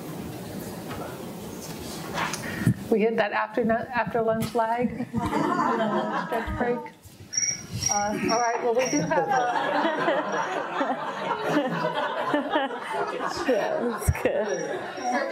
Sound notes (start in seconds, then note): 5.0 audience laughing; 7.3 cricket chirping; 8.6 everyone laughs